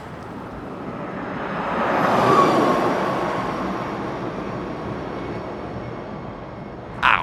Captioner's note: truck passing